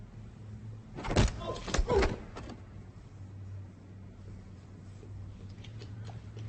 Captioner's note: punches thudding; people groaning